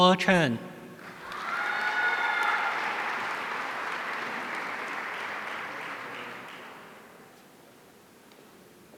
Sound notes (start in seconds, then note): 1.1 audience cheering